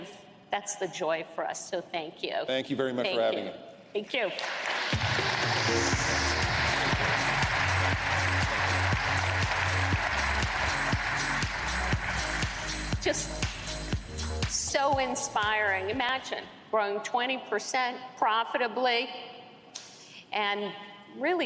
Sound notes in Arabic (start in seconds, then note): 4.2 تصفيق